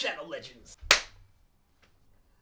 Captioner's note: claps